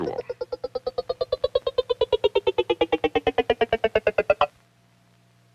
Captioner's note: doinking noises